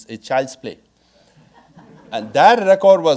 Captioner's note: audience laughing